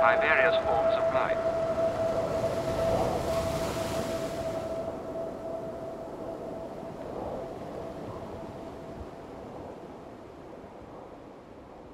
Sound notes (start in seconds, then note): 2.5 waves roaring; 2.5 wind blowing